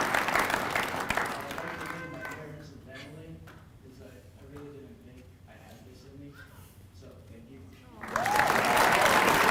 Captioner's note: applause